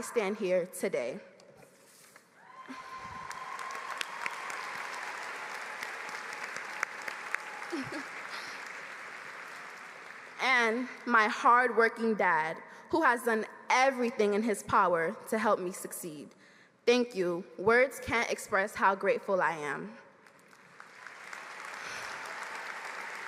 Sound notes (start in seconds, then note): 7.8 applause